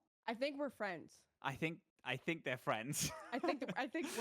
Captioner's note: chuckles